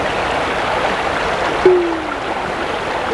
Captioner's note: pop; rushing water continues